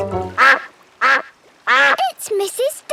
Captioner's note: quacking